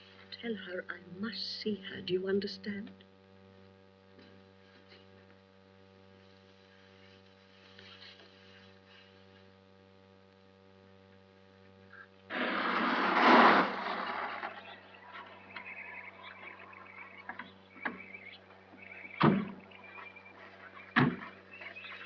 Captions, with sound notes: Tell her, I must see her, do you understand? [ CAR DRIVES UP ] [ DOORS OPEN AND CLOSE ]